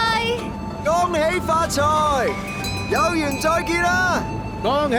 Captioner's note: in Cantonese